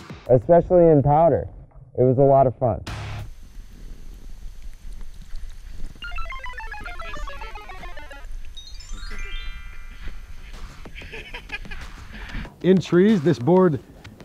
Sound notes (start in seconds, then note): 3.3 pee trickling; 6.0 video game sound effect; 10.6 guys laughing